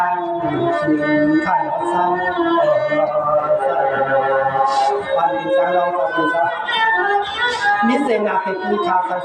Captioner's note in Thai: เสียงหัวเราะ